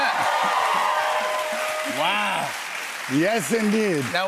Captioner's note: cheers and applause